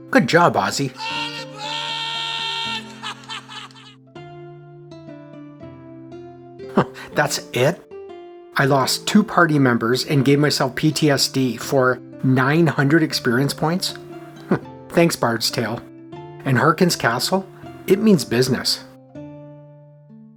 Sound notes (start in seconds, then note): 6.7 chuckles; 14.4 chuckle